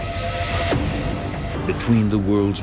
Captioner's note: booming